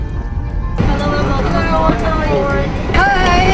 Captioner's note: flight attendant and passengers chattering